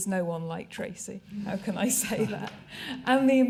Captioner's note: laughter